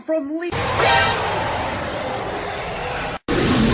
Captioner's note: Leech moth ROAR